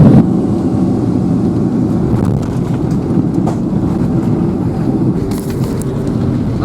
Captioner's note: plane engine noises